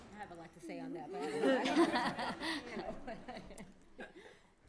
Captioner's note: laughter